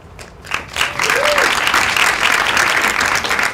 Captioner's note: applause